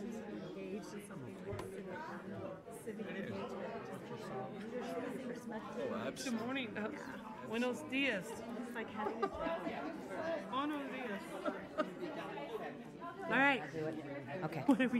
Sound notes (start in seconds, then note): 6.8 speaking in foreign language